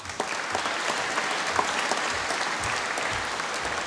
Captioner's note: applause